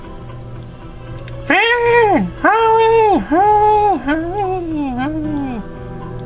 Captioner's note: echos